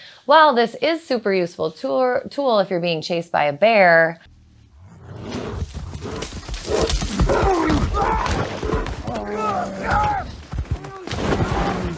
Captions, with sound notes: While this is super useful tour tool if you're being chased by a bear, [bear sounds]. [man screaming].